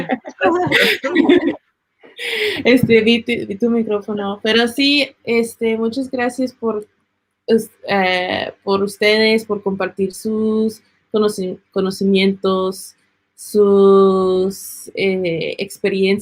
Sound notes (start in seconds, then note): 0.0 group laughs; 2.7 speaking Spanish